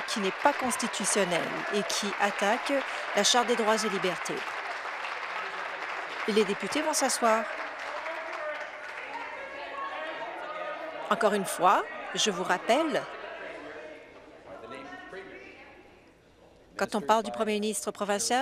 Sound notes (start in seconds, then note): 1.6 applause